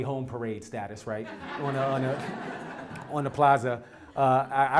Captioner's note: laugh